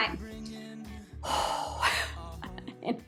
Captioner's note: exhales